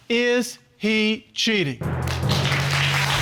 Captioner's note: audience applauding